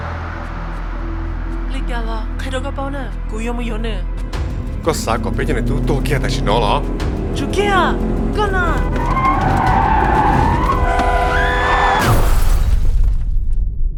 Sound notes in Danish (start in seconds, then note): 9.0 gearskifte; 10.9 kvindestemme skrigende; 12.2 KRASHENDE lyd